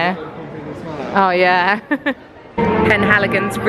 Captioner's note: laughing